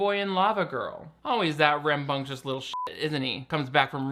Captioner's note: beep